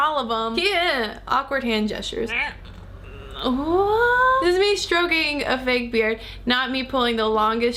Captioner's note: confused sounds